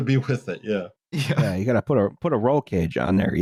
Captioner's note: laughing